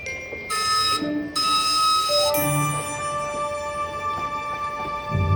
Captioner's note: high pitched train horn